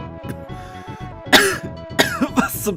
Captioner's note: cough